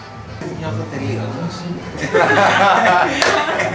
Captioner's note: laughter